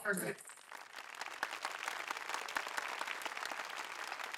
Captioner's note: applause